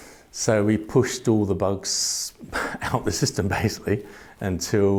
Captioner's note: laughs